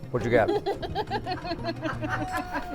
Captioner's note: laughter